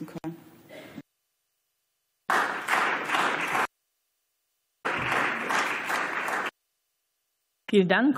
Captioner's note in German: Beifall